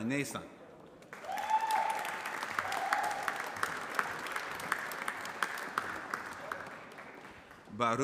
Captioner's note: applause